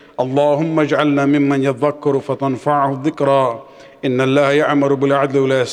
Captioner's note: arabic